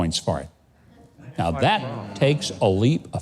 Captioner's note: audience laughing